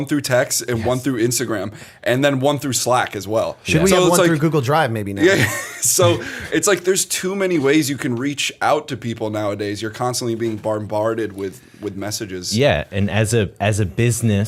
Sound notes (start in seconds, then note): 6.0 chuckle